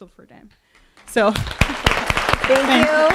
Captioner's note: audience applauding